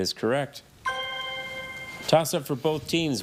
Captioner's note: chime resonating